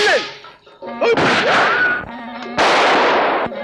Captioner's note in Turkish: Silah sesleri